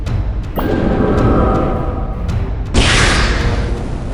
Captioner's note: thunder storm